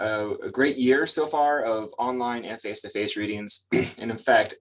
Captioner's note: clears throat